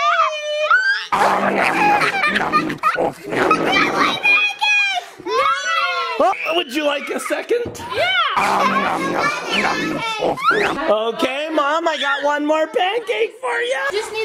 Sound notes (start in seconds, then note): 0.0 children screaming; 1.1 person eating; 4.5 people exclaiming; 8.4 person eating; 11.0 people exclaiming